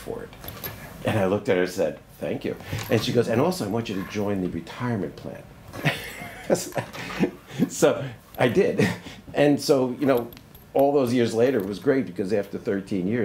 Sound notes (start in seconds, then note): 5.8 laughs